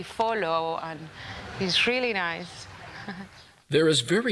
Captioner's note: laughter